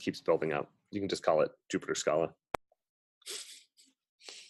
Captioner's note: laughs